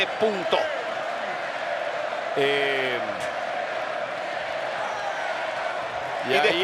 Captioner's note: applause